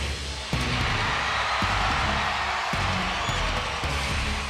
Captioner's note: crowd cheers; edgy upbeat music plays